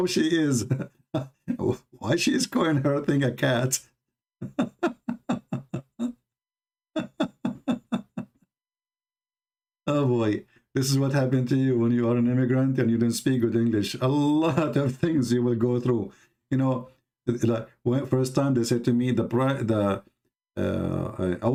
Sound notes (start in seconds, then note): 4.3 Ketawa